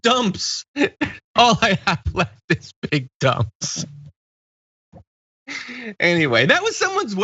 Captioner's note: laugh